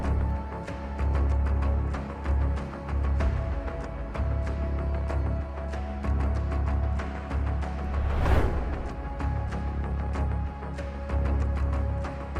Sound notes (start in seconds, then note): 0.8 suspenseful music continues; 7.7 transition whooshing; 9.2 suspenseful music continues